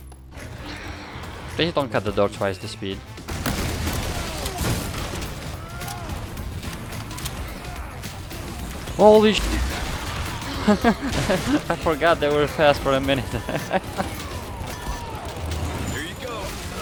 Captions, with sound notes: please don't cut the door twice the speed holy sh*t ! [Laughs] I forgot they were fast for a minute